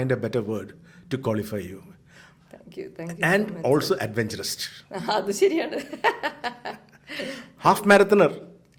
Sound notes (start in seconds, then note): 5.6 laughs